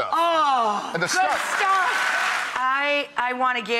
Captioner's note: audience applauds